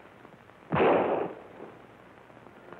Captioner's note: non-english speech; gunshot